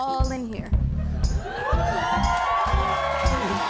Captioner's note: cheers and applause